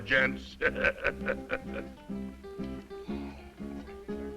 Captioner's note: laughs